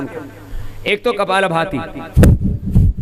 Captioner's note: breathing exercise